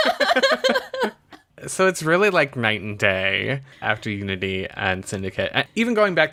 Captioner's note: laughs